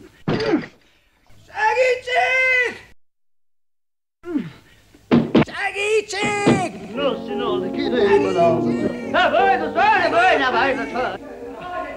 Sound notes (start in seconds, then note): 0.7 grunts; 7.9 sings gibberish